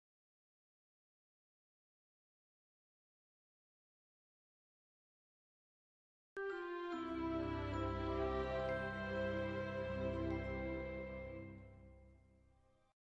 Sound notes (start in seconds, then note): 0.8 silence; 6.4 relaxing music plays to the tune